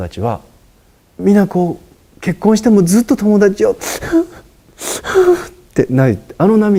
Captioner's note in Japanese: 泣きじゃくりながら